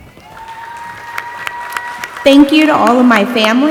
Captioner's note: audience applauding and cheering